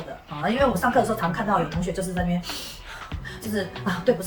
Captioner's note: deep breath